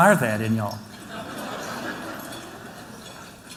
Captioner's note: laughter